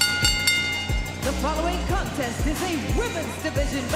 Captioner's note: bell ringing